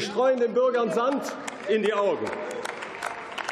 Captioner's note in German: Beifall